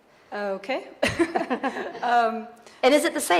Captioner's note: chuckling